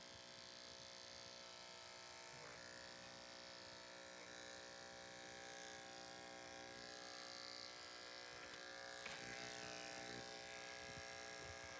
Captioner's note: buzzing noises